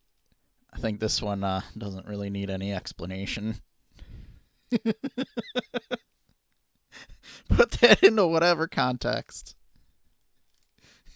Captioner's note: laughing